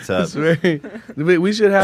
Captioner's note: laughs